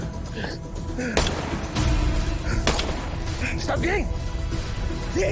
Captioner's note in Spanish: Disparos